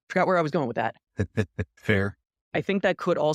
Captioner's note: laugh